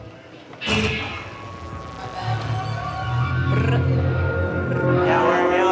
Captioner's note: static crackling; crowd murmuring